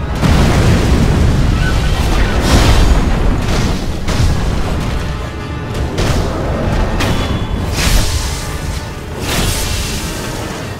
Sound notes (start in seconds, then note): 6.6 deathblow rings